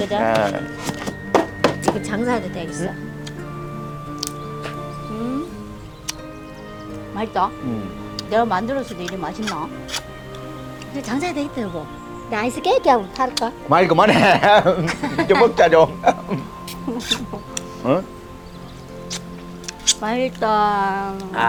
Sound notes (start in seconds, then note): 13.8 both laughing